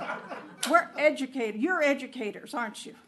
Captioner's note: laughter